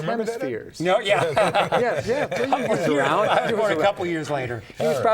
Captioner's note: laughing